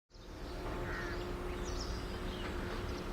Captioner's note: birds chirping